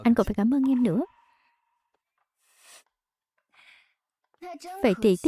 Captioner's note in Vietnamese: khịt mũi